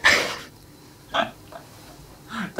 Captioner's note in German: beide lachen